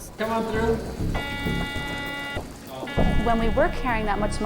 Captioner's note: metal detector beeps